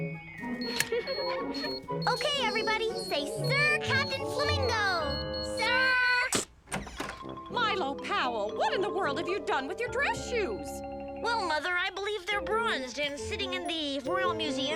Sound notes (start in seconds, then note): 0.4 camera beeps; 0.9 Lizbeth giggles; 5.6 camera clicks; 6.2 door opens